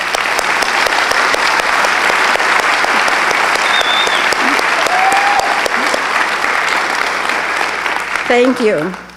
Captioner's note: applause